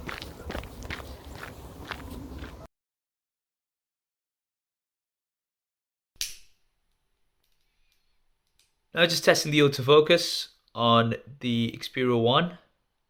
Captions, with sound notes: (lighter clicks) Now just testing the autofocus on the Xperia 1.